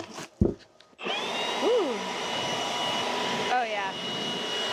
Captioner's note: blower whooshes